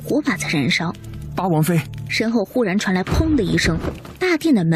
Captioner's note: bang